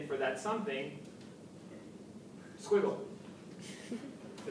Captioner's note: background laughter